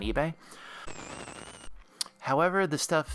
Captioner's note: static